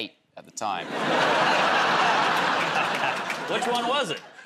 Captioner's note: laughter